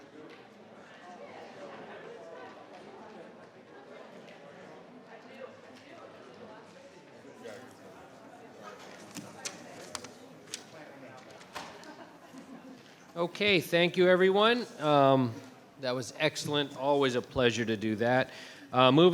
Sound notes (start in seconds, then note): 2.0 crowd chattering continues; 8.7 papers rustling